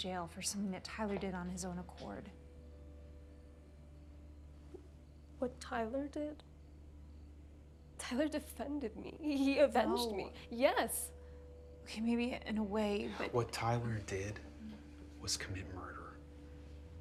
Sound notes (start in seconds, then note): 2.8 crickets chirping; 2.8 tense music